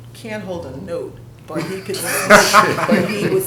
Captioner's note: laughter